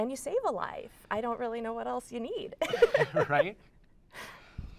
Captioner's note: laughs